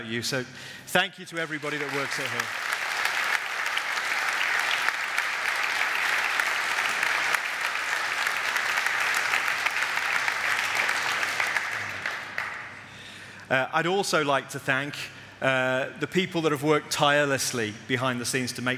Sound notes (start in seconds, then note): 2.8 audience applaud